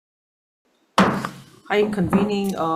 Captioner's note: gavel bangs